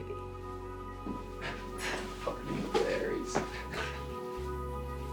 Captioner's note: scoffs; hopeful guitar